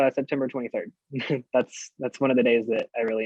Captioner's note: chuckles